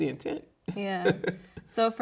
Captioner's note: laughing